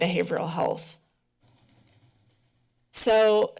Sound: pause

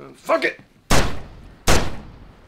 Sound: gun shot

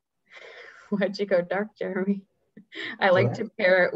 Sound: laughs

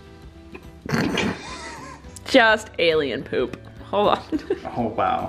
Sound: laughs

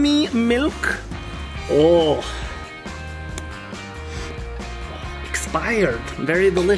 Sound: inhales

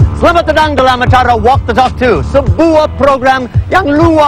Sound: speaking indonesian

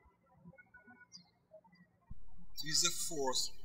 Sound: birds chirping

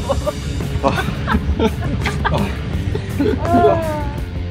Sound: laughing

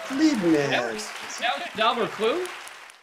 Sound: audience applauding

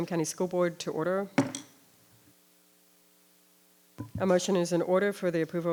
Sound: gavel taps

